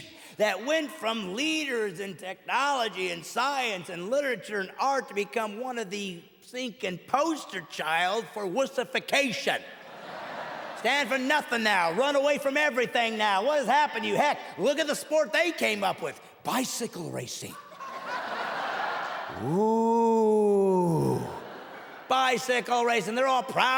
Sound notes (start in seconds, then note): 14.5 audience laughs; 22.8 laughter